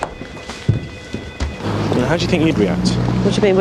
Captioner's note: phone ringing; traffic whooshing